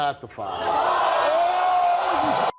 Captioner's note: audience jeering